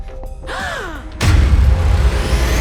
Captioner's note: both gasps